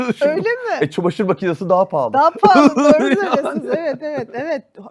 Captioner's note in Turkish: kahkaha